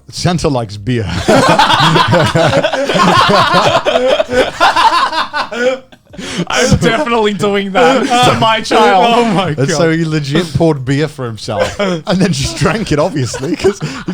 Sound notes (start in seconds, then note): 6.6 laughing